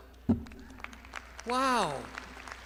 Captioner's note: crowd applauding